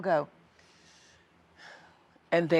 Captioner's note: inhales deeply